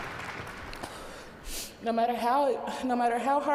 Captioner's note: applause